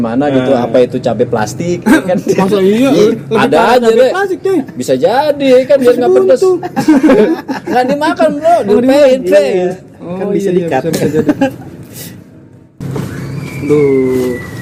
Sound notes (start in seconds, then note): 9.2 laughs